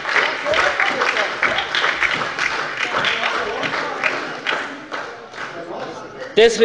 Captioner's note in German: Beifall bei der SPD und der LINKEN